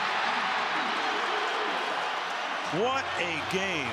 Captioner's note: crowd cheering